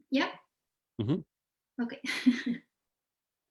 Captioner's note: chuckles